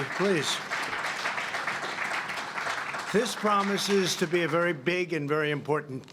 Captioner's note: applause